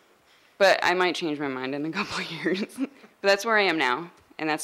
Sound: laughing

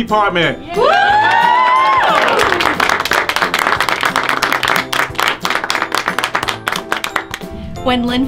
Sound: cheering and clapping

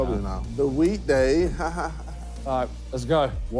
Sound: laughs

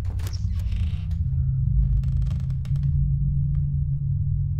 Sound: wood creaking

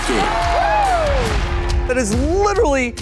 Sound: cheering

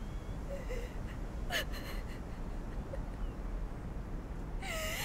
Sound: Googly sobbing

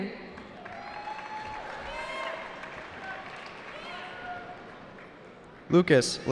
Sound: cheering

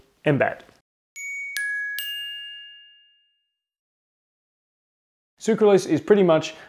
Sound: electronic bell ringing

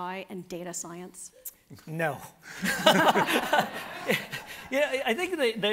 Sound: everybody laughing

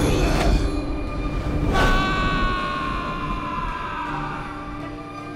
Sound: screaming

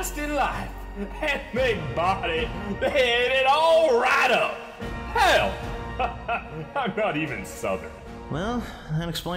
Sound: drops accent

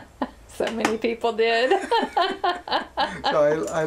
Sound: laughter

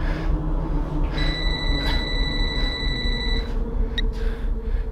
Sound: phone rings

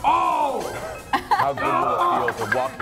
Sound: laugh

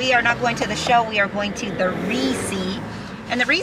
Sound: murmurs

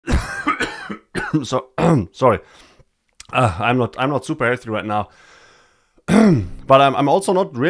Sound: cough

